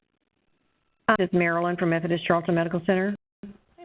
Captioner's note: voiceover